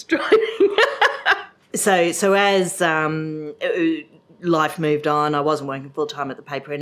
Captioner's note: laugh